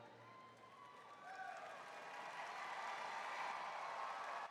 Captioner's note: attendees cheering